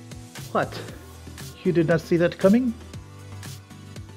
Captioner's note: spoken in my terrible accent